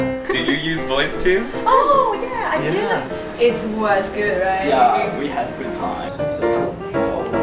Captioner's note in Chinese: 聊天中